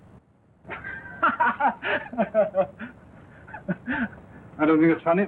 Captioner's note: laughs